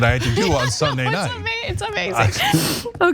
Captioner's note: laugh